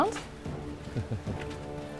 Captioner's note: giggles